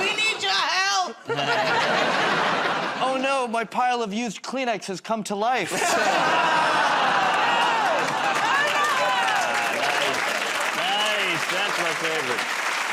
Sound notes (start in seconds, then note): 5.8 audience "Oh"s